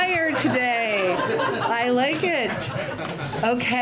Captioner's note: laughter